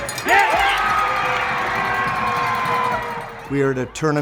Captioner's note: crowd cheering